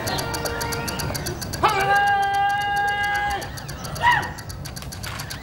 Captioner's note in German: Sergeant bellt Befehle